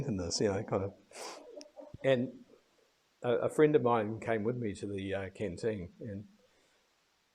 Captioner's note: sniff